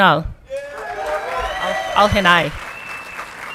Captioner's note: audience clapping and cheering